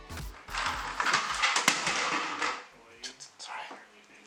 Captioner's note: crashing sounds